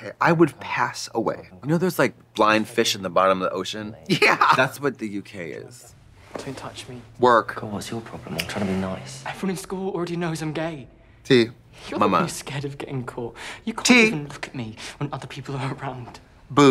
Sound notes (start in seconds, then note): 5.2 chuckling